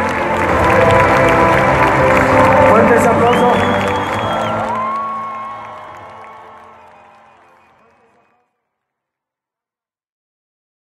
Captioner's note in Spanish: aplausos